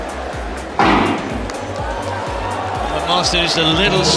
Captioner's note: starting pistol firing